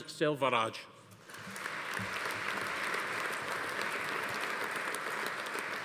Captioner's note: audience applauding